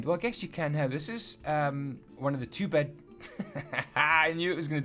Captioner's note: hahaha